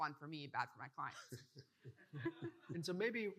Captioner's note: participants laughing